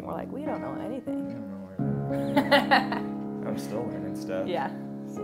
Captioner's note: laughing